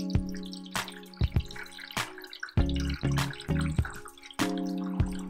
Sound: water being poured

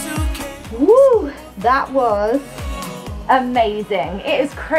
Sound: exclaims

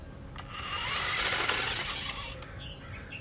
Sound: RC car wheels turn

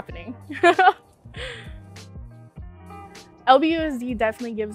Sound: laughs

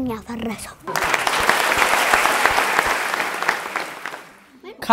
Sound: applause

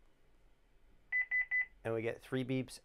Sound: beeping

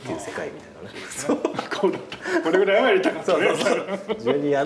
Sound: laughs

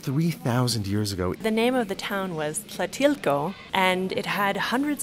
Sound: voiceover

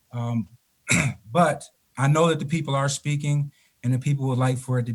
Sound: clearing throat

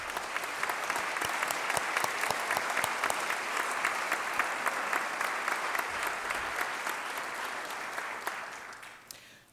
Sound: applause

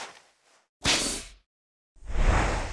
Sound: shwoosh

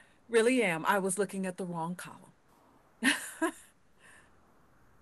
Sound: laughs

